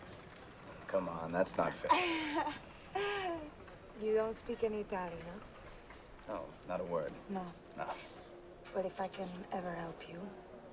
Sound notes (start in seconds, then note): 1.8 giggles